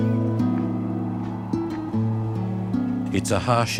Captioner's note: wind howls